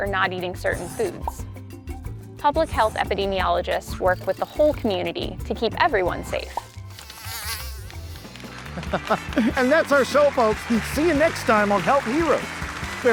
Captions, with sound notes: or not eating certain foods. Public health epidemiologists work with the whole community to keep everyone safe. [bug buzzing] - And that's our show folks. See you next time on "Health Heroes."